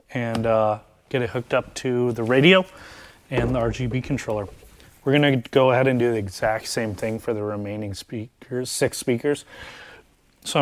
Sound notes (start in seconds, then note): none